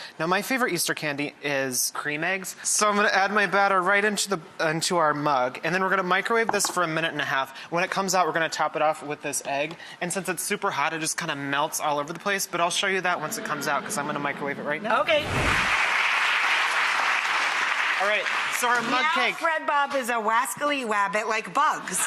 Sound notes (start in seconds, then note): 15.6 audience applause